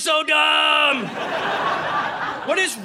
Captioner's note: audience laughing